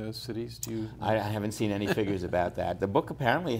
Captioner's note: laughs